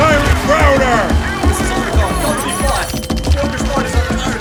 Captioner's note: panicked Radio chatter